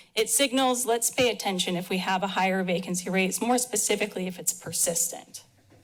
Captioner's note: none